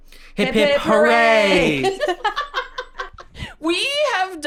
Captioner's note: laughs